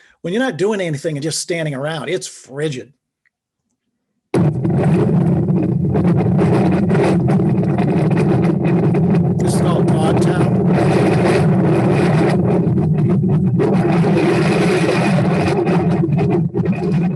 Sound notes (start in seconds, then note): 4.7 wind blowing